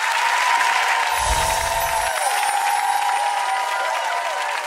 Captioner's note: cheering; chiming